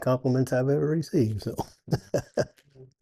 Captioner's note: laughs